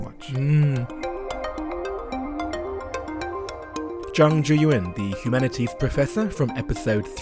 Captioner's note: voiceover